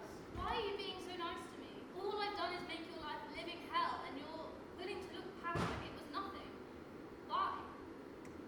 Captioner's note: none